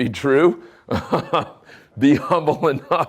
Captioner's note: chuckling